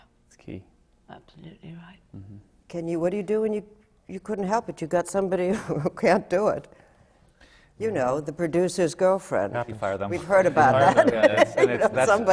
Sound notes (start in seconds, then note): 5.6 laughs; 10.2 laughs